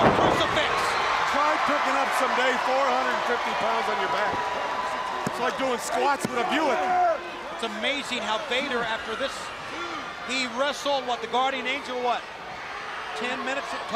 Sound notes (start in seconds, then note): 4.7 crowd cheering; 8.0 crowd chatter